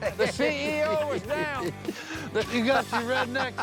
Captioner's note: laughter